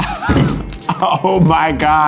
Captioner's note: meat thuds; laughs